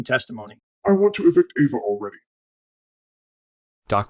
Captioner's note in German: verzerrt